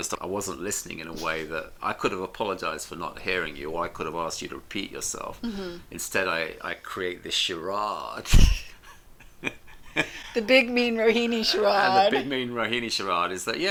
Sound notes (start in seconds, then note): 9.1 laughs